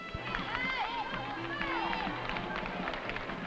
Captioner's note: crowd cheering